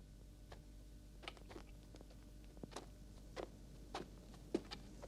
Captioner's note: tip-tap of footsteps